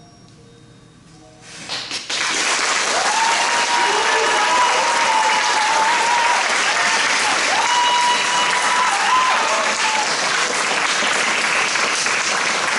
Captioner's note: applause